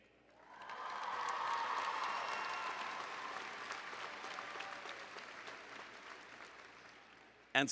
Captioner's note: applause and Cheering